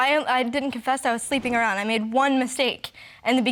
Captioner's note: voice shaking